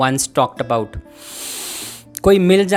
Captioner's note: breathes in